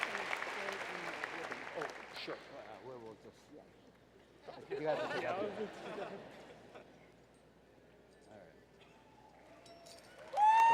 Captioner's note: applause